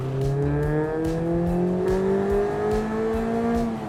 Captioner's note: engine revving